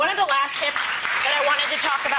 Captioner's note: audience claps